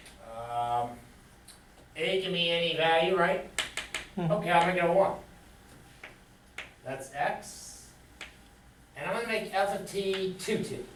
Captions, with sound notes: a can be any value, right? (taps on chalkboard) Okay, I'll make it a one. That's x, and I'm going to make f of t two t,